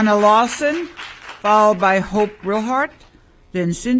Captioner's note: applause